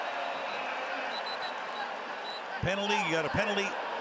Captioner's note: whistle